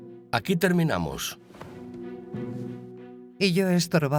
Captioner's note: dramatic music; boots clicking